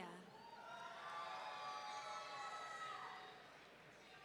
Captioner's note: audience cheering